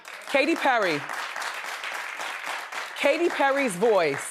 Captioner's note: audience applauds